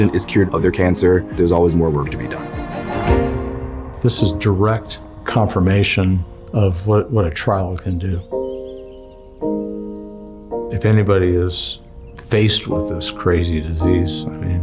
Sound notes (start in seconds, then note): 8.3 birds chirping